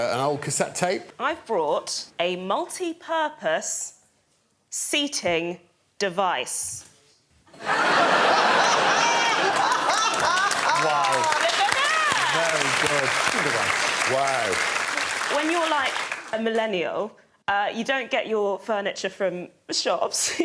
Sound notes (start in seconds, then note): 7.5 laughter; 10.1 applause